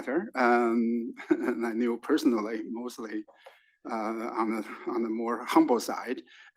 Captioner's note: laugh